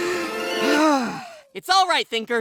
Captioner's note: sighs; inhales